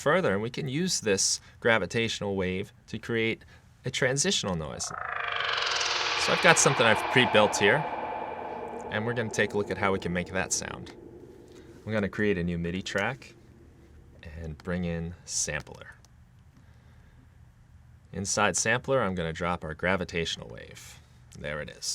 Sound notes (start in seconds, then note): 4.8 echoing electronic rattling